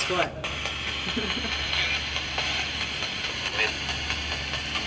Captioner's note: laughing